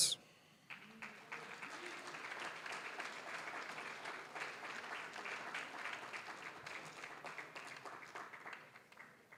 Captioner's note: applause